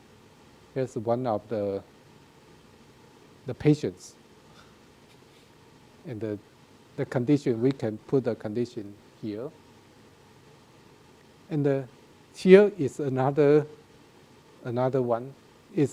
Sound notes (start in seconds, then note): none